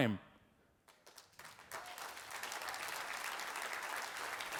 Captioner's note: audience applauding